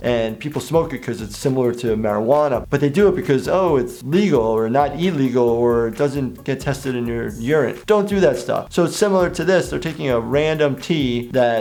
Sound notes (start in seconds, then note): none